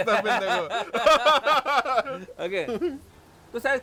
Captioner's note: risas